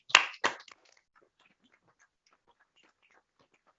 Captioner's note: applause